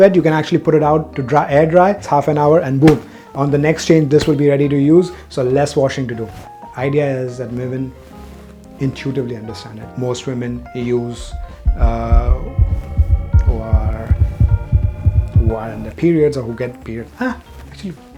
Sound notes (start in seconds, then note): 2.9 cloth smacking; 11.2 fast heartbeat; 11.2 alarm intensifying